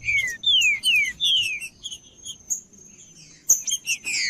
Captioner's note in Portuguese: trinca ferro cantando